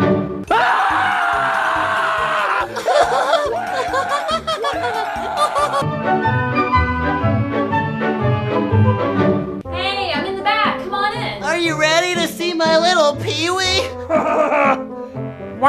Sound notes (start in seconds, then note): 0.0 jovial music; 0.4 both screaming; 2.8 high-pitched giggling; 5.9 jovial music; 13.9 deep laugh